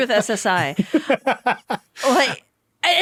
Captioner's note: laughing